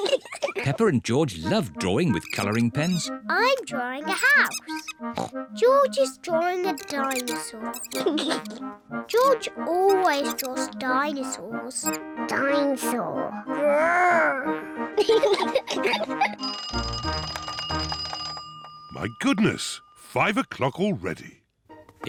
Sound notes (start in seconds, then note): 5.1 oinks; 13.8 growls; 14.9 both laugh; 16.3 clock rings